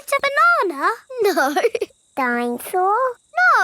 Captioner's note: laughing